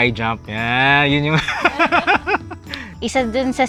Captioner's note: laughs